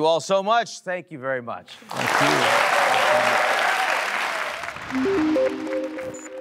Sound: audience cheers; mysterious music

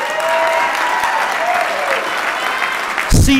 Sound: applause

